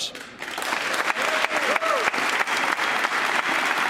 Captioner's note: applause